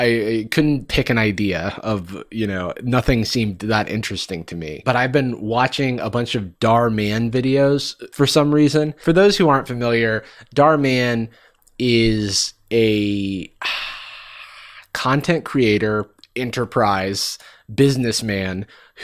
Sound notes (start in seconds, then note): none